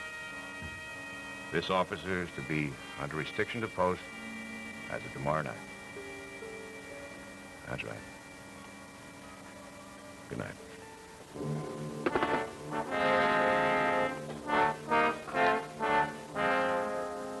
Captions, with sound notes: This officer is to be under restriction to post, as of tomorrow night. That's right. Good night. [Phone clatters into cradle] [Dramatic music]